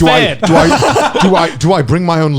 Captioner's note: laughing